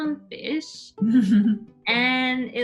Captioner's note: laughing